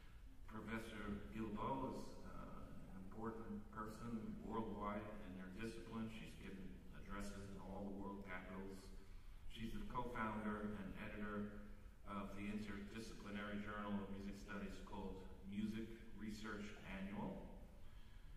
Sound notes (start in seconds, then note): none